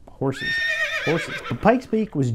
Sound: horse neighing

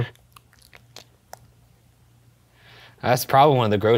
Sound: continues tongue clicking

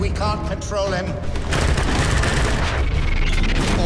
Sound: machine guns fire

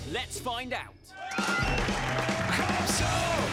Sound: cheering

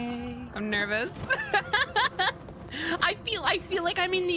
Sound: laughter

